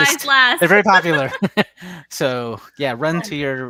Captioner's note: laughs